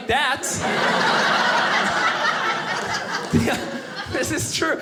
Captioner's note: audience laughing